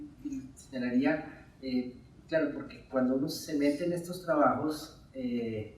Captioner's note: speaking in Spanish